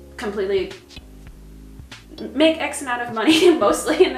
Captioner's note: chuckles